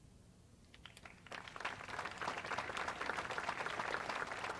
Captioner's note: audience applauds